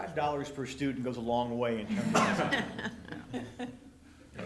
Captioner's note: laughter